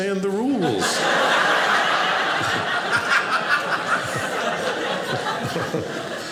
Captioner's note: audience laughing